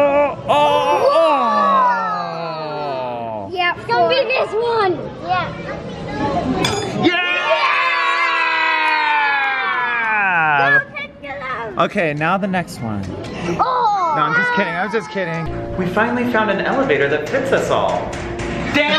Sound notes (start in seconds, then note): 0.0 groans; 7.0 loud cheering